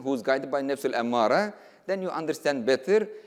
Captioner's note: speaking in foreign language